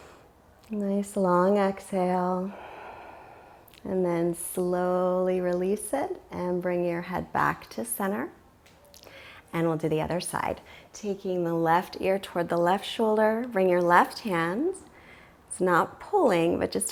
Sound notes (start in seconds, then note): 2.4 exhales